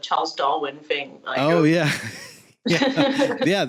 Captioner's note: laughs